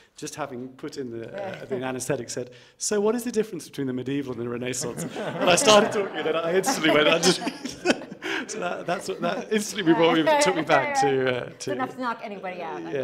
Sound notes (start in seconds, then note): 4.9 audience laughing; 8.0 laughing